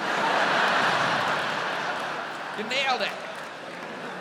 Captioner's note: audience laughs